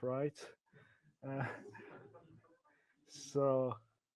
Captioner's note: laughs